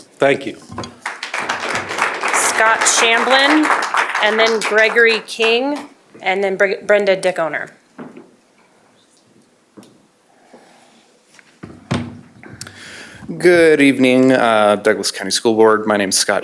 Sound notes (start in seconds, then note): 4.3 applause